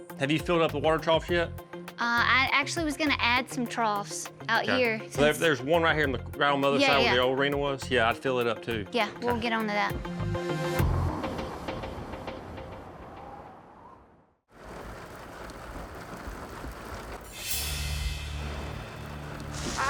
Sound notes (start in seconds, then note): 11.0 wind howling; 14.5 rain falling